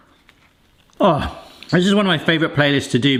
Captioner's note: groans